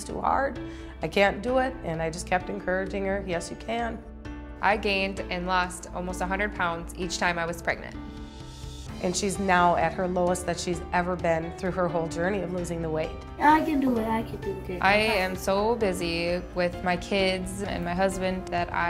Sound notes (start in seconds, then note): none